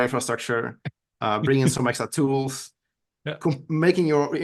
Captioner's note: chuckling